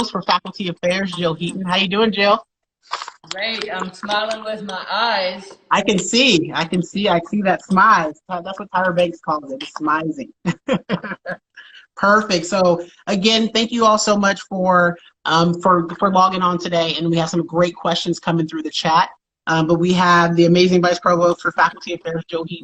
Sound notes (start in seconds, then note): 10.3 laughs